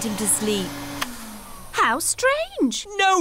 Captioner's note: whirring stops